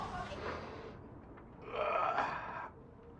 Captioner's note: man straining